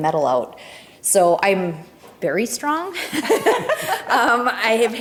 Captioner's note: both chuckling